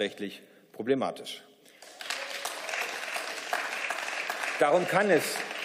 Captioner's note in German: Beifall